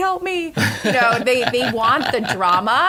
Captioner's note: laughter